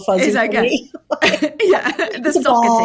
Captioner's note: laughs